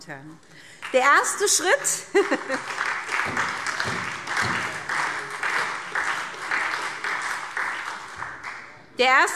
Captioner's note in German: Beifall SPD